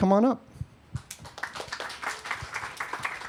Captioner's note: applause